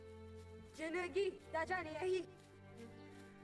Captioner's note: Spoken Cherokee